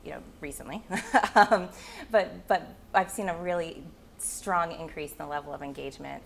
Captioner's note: chuckling